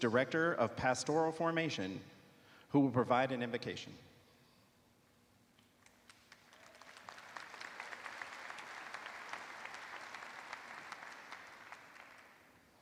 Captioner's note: applause